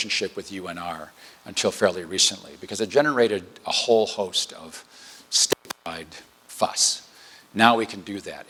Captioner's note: distortion